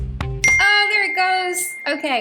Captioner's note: bell ding